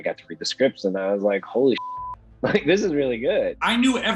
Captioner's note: beep